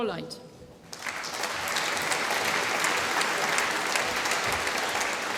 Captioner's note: applause